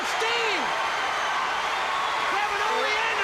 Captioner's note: crowd cheering